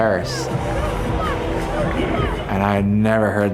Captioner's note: booing and negative yelling